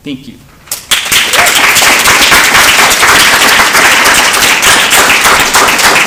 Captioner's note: applause